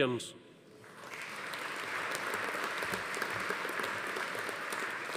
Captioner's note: audience applauding